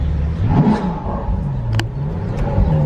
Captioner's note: vrooom-vrrroooom!